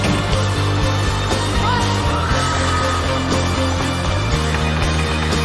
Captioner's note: crowd screaming